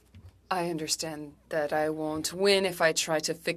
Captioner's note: speaking French